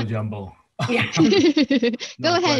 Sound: laughter

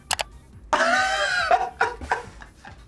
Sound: laughs

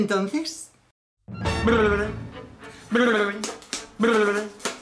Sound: mouth sounds

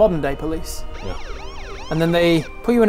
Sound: sirens

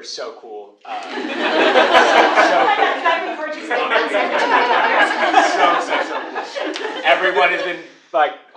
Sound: laugh

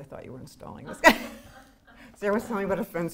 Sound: both laughing

